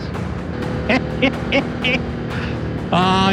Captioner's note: laughs